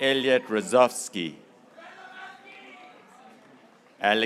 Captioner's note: graduates cheering